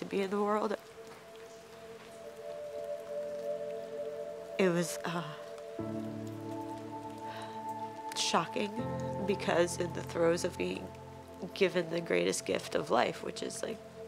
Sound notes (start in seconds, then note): 1.8 pensive music; 6.5 soft instrumental music; 7.0 labored breathing